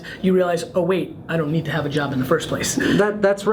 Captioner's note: laughs